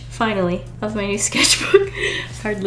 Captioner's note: laughs